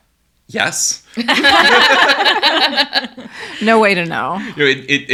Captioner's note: everyone laughing